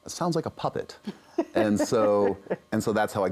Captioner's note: laughs